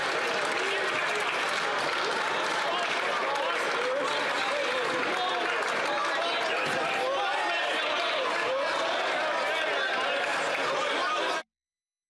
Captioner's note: some Applause